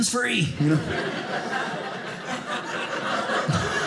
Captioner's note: audience laughing